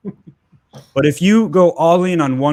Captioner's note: chuckles